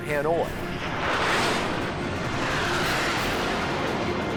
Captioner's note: jet engine noises